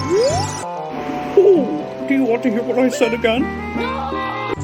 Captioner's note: owl Hoot